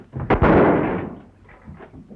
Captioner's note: gunshot